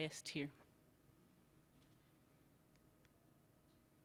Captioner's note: silence